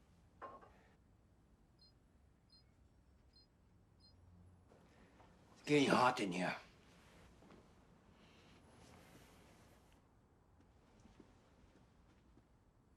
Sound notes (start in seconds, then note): 2.5 remote beeping